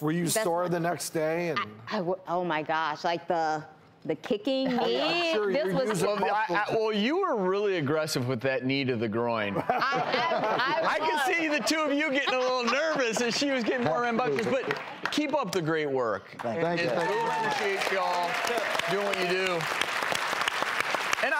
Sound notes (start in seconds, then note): 4.6 laughing and chatter; 9.7 laughing; 16.6 clapping and cheering